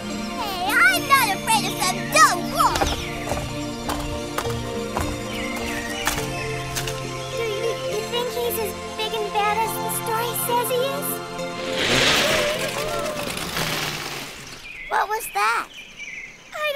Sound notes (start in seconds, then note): 11.3 whirring